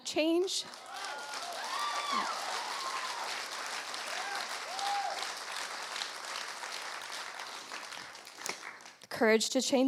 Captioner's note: applause